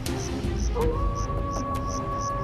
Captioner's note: howling